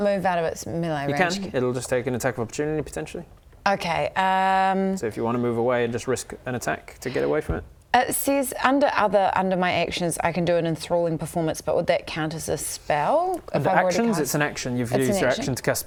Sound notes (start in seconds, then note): none